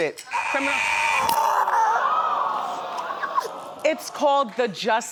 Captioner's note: buzzer buzzes; groans